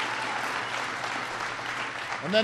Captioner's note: applause